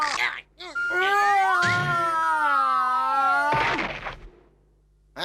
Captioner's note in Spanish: grita